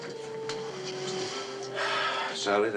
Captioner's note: sighs